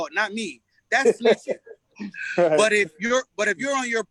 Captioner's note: laughs